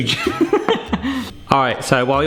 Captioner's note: laughs